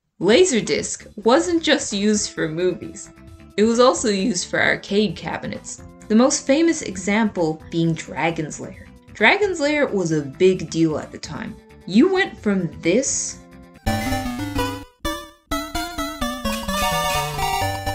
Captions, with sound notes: Laserdisc wasn't just used for movies, it was also used for arcade cabinets. The most famous example being Dragon's Lair. Dragon's Lair was a big deal at the time, you went from this. *arcade noises*